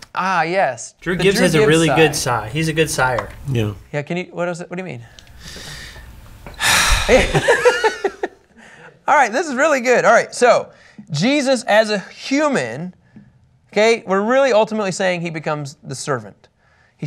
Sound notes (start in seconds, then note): 6.5 sighs